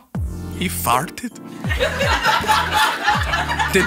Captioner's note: laughing